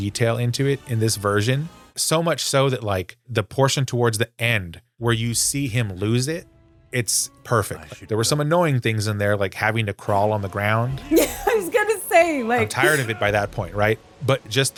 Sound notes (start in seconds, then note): 11.0 laughs